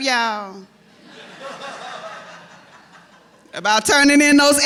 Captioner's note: laughter